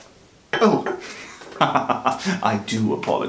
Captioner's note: laughs